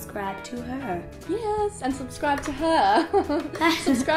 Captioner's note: laughs